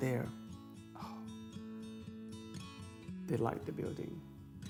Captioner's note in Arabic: يتنفس الصعداء